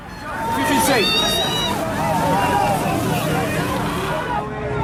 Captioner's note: screaming